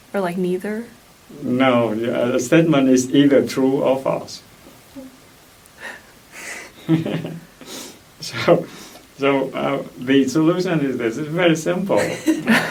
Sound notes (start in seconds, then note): 6.3 laughs; 11.9 laughs